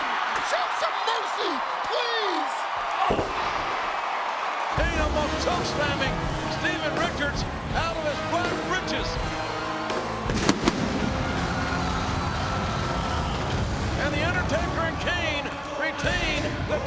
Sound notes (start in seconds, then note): 2.9 body thudding; 10.2 pyrotechnics exploding; 11.5 crowd cheering